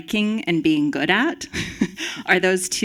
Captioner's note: chuckles